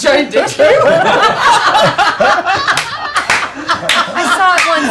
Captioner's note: laughter